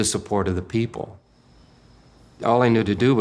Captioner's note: crickets chirping